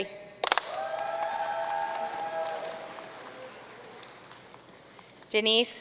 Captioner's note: audience cheering and applauding